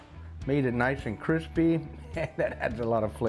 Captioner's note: laughs